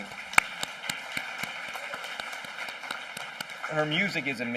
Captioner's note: applause